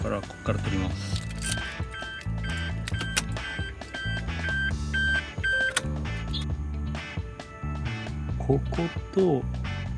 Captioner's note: ignition